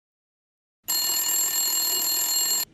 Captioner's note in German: Rrrriiing